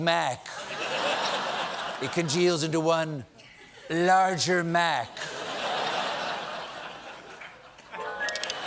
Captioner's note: laughter; piano riff; laughter